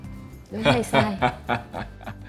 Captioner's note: laugh